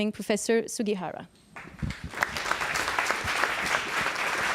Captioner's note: applause